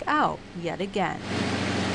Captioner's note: nats pump water